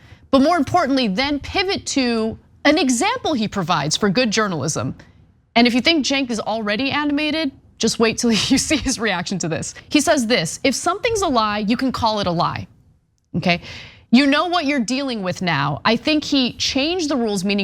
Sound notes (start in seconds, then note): 8.3 laugh